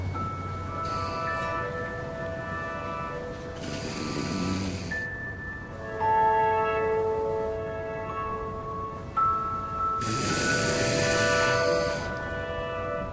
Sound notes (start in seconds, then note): 0.2 light music playing; 3.6 leah snoring; 10.0 snoring